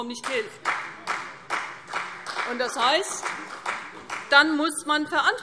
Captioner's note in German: Beifall CDU und vereinzelt BÜNDNIS 90/DIE GRÜNEN